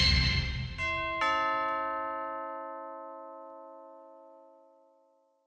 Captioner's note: doorbell chimes